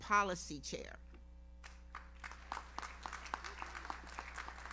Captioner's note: audience applauds